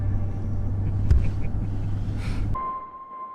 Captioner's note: chuckles